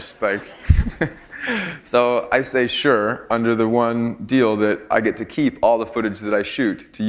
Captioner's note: chuckle